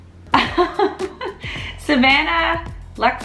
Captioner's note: laughs